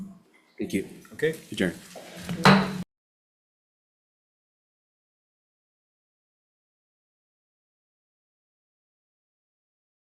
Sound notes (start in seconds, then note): 2.4 gavel clanks